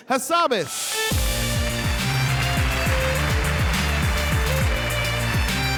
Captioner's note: upbeat music; audience applauding